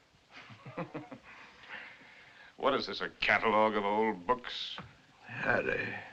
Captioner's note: chuckles